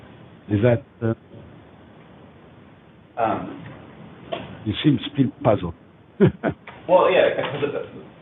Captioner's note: laughs